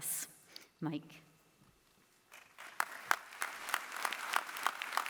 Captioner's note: applause